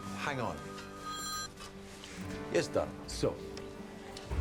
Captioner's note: phone ringing